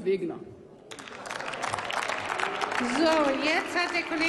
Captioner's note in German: Applaus